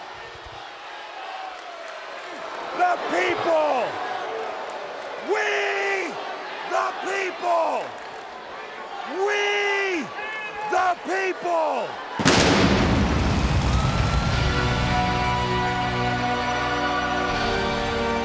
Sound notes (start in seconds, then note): 0.2 crowd chattering; 12.1 fireworks blasting; 14.2 dramatic somber music